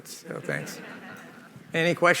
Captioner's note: laughter